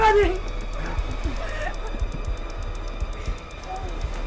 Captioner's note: Tina gasps; muffled groaning